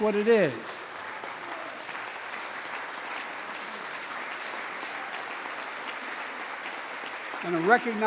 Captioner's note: applause